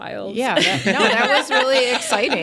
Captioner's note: participants laughing